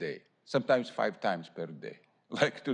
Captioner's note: laughter